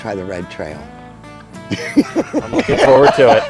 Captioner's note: slow country music; laughing